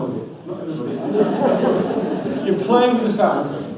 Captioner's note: audience laughs